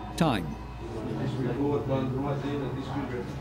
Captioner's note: indistinct chatter